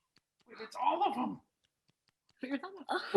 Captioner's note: gasps